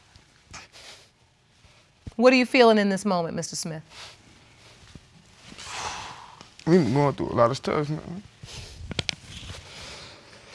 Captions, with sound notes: What are you feeling in this moment, Mr. Smith? (EXHALES) I've been going through a lot of stress, you know.